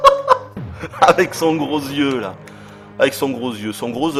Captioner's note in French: rires